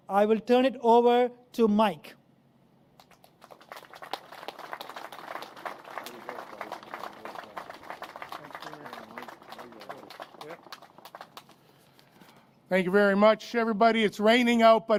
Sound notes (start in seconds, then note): 3.0 applause